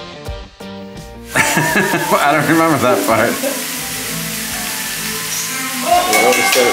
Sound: energetic rock music; laughing

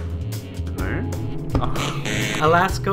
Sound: buzzer

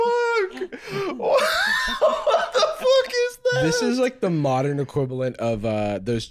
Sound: laughing

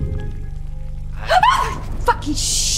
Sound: Janine gasps

